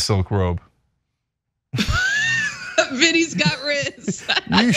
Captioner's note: laugh